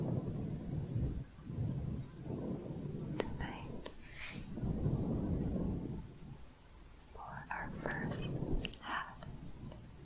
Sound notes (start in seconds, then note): 4.2 windy sounds